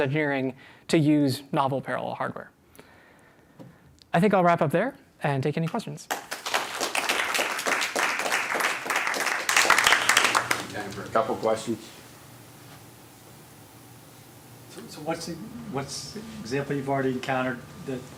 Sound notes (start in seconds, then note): 6.0 applause